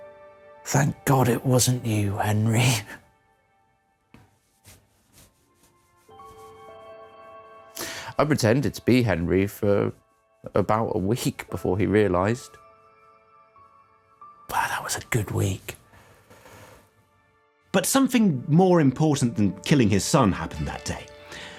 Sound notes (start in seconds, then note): none